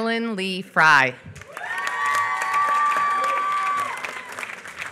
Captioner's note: applause